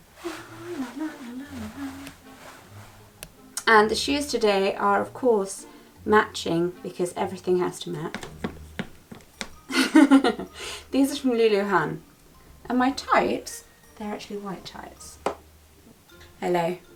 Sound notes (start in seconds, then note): 0.2 sings a little tune; 8.0 feet tapping; 9.7 laughs; 15.2 taps foot